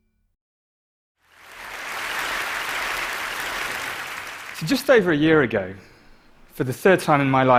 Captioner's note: applause